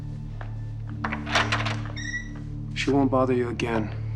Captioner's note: door opens